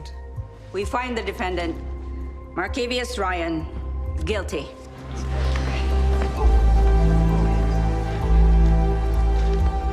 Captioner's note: chatter